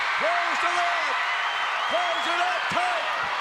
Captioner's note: audience cheers